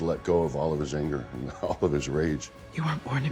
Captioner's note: chuckling